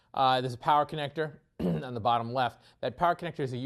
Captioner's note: cough